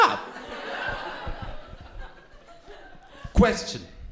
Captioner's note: crowd laughing